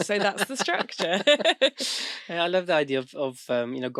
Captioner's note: both laughing